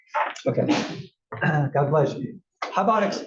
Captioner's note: cough